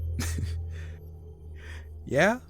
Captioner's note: laughs